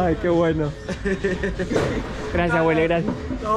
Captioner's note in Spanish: Risas